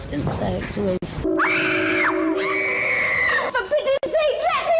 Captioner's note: screams